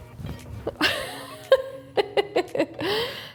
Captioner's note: laughing